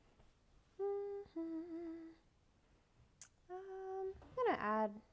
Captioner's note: humming